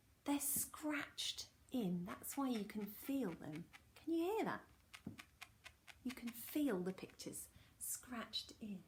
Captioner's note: scratching